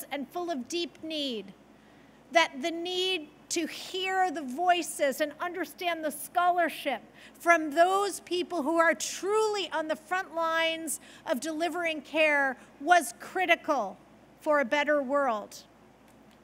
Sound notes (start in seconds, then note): none